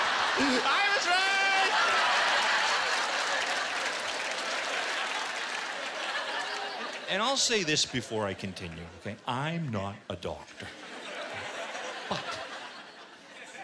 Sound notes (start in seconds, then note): 2.6 laughter and applause